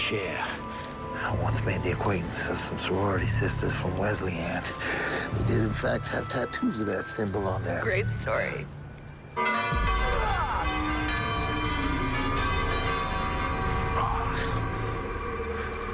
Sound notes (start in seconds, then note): 9.2 loud chiming bells; 13.0 chiming stops